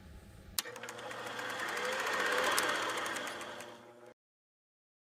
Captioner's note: reel whirling